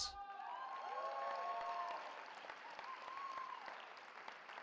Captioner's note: cheering